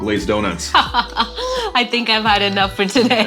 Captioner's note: laughs